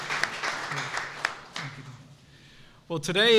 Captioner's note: applause